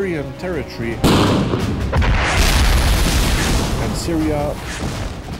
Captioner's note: artillery booming; explosions booming